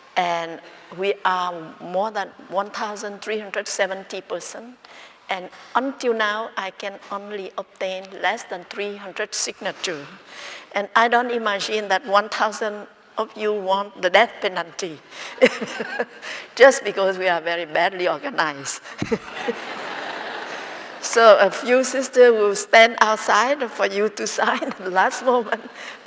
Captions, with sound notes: We are more than 1,370 persons and until now I can only obtain less than 300 signatures. I don't imagine that 1,000 of you want the death penalty! It's just because we are very badly organized! (Laughing) So a few sisters will stand outside for you to sign at the last moment,